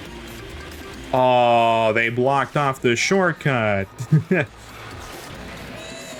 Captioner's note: chuckle